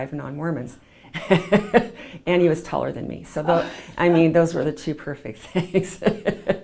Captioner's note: laughs